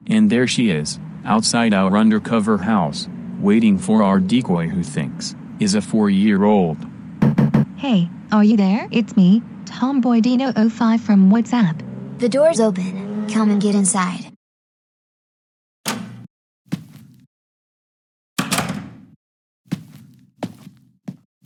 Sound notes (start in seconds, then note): 7.2 knocking; 16.7 footsteps; 19.7 footsteps